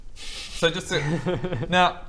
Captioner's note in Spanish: risa siniestra